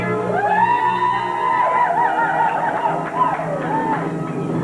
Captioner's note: applause and cheers